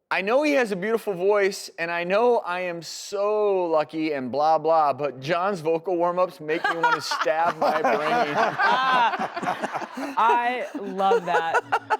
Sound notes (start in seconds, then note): 8.5 everyone laughing